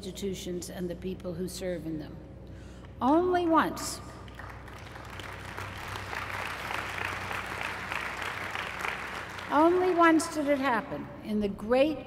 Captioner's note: applause